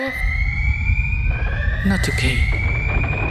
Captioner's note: tremor alert